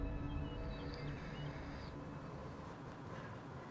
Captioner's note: birds chirping